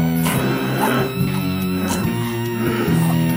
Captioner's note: coughs